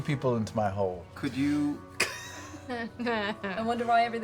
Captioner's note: laughs